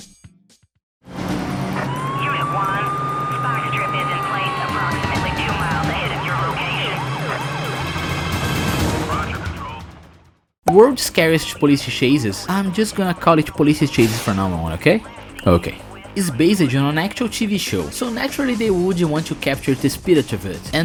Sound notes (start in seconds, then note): 0.2 speaking through police radio